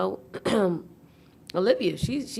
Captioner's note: clearing throat